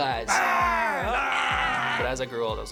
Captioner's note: scary mouth sounds